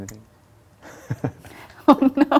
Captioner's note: laughs